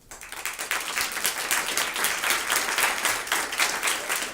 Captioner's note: applause